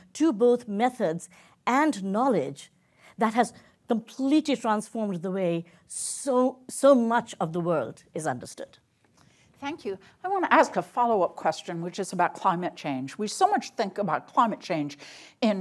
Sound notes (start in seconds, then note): none